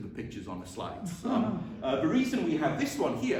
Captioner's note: chuckling